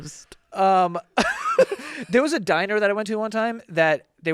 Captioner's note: laughs